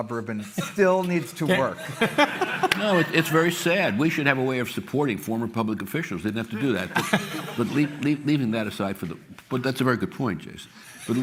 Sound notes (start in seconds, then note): 1.5 laughter